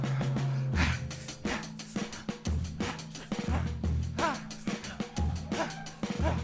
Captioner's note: group panting; upbeat music